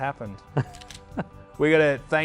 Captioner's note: laughs